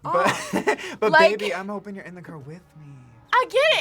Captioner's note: laughs